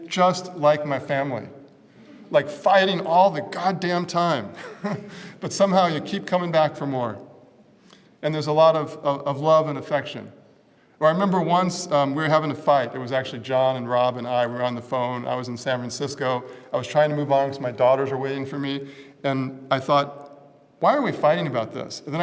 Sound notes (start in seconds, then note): 4.6 laugh